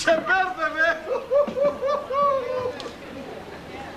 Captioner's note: γέλιο